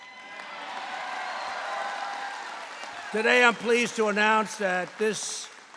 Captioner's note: applause